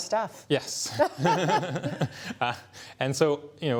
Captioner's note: laughter